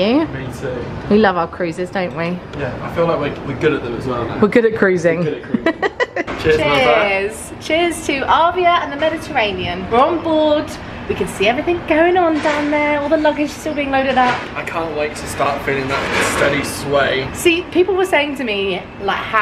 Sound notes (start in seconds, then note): 5.4 laughing